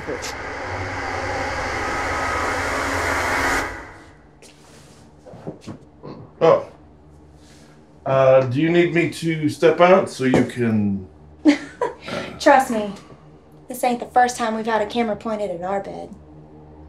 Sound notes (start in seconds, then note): 11.5 laughs